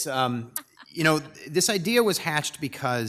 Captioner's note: woman laughing